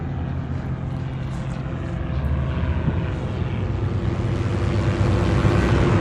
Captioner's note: airplane engine roaring